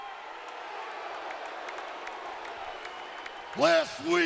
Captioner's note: audience cheering and applauding